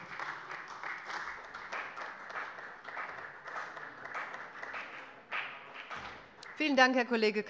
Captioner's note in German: Beifall bei dem BÜNDNIS 90/DIE GRÜNEN und der CDU